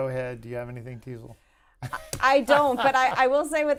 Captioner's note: laughter